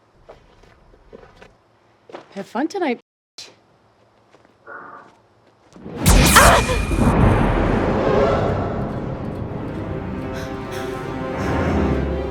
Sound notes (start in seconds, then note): 6.0 dramatic music; 6.5 screaming